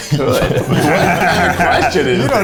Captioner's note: all laugh